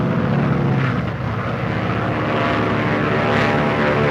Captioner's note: airplanes buzzing